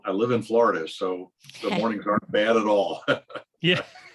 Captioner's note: laughs